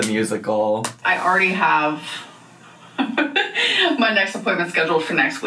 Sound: laughs

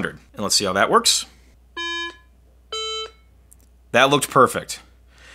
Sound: iPhone beeping

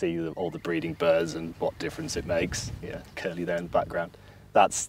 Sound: curlew calls

